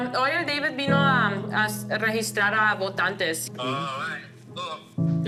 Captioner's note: speaking Spanish